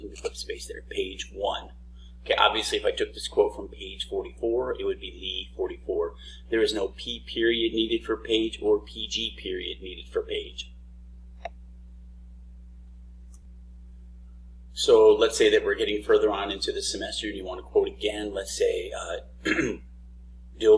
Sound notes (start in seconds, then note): 13.3 mouse click; 19.4 clears throat